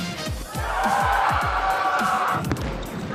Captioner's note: cheering